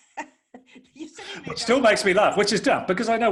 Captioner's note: laughs